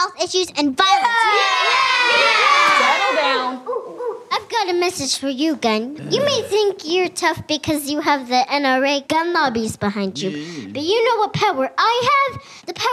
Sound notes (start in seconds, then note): 1.0 cheers